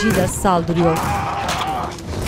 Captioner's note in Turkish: Haykırma sesi